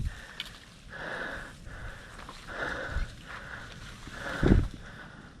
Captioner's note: breathing heavily